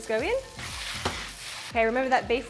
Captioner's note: food spattering; wok thuds